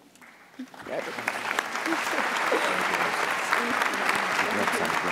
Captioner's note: audience applauds